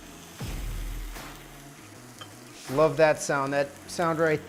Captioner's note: meat sizzling